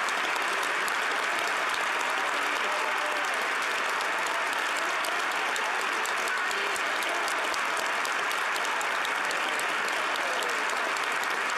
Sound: applause

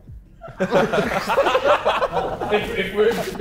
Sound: Sidemen laughing

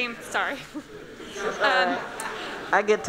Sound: laughing

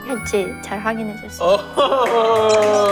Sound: laughing

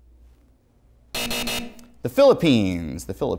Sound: buzzer

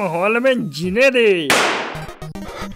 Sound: gunshot

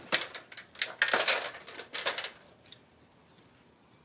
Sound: steps on clanking ladder

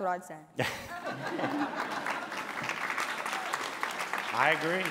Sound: applause

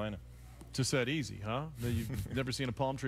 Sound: laughs

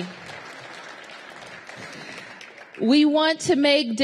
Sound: applause

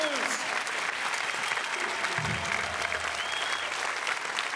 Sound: applause

